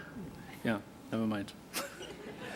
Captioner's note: laughter